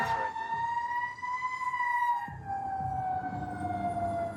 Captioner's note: siren wailing